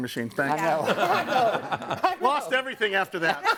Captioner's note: group laughs